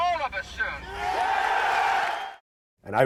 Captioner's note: cheering